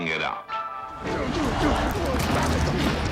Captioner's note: grunting